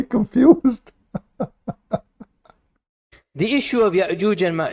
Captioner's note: Ketawa